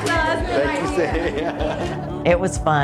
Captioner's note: laughing